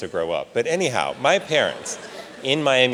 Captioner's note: audience laughs